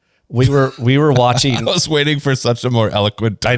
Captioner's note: laughs